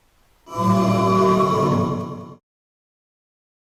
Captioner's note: ghost woooohh magical noise